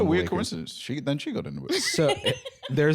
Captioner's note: laughing